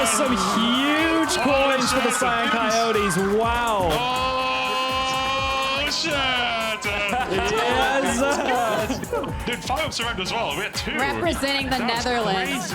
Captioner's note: cheers and applause